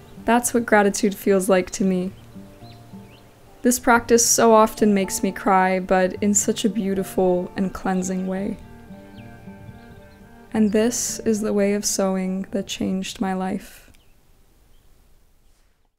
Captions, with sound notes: That's what gratitude feels like to me. This practise so often makes me cry, but in such a beautiful and cleansing way. (calming music) (birds chirping) And this is the way of sewing that changed my life.